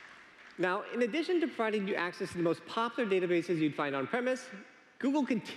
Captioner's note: applause